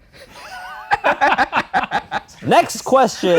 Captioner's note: both laughing